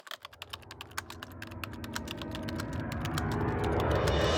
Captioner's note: typing sounds